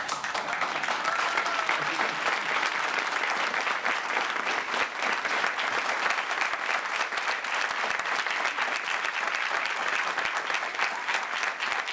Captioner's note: applause